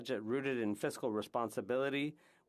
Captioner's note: speaking French